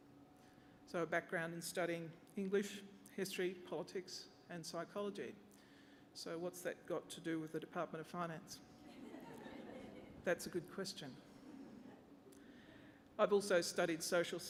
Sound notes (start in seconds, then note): 8.8 laughter